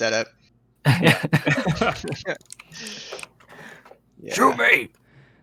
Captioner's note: laughter